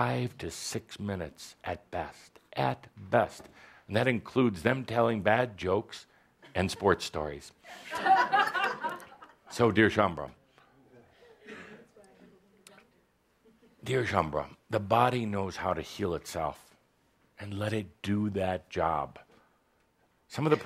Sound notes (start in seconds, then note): 7.7 laughter